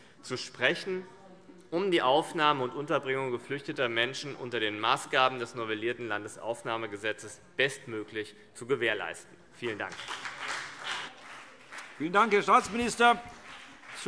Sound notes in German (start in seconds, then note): 9.7 Beifall BÜNDNIS 90/DIE GRÜNEN und vereinzelt CDU